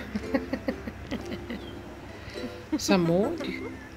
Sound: laughing

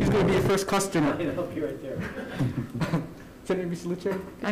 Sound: committee laughs

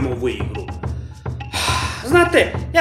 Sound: sigh

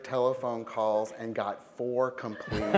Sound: laughter

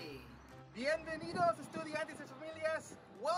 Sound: Spanish

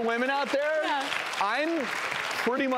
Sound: audience clapping

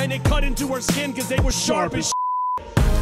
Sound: beep

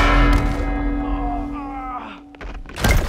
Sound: yells then bell rings; groans

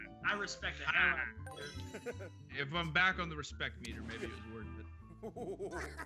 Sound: laugh

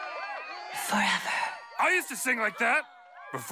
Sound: cheers; breathless

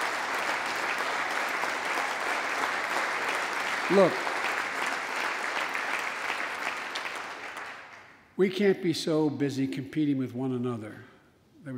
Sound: applause

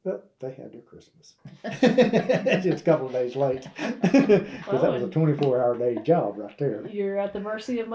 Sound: laughter

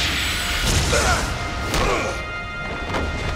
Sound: grunting

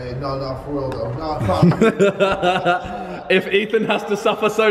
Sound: laughing

